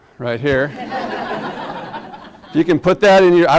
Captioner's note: class laughs